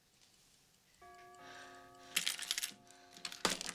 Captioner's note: doorbell Rings